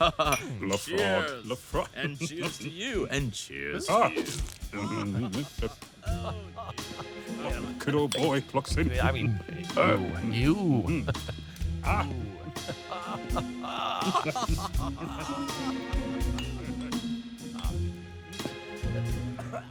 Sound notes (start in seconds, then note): 0.0 cheering cups; 0.0 jovial laughing; 8.8 jovial laughing; 9.5 cheering cups